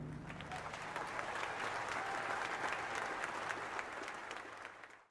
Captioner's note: applause